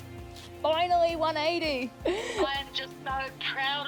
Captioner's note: gasps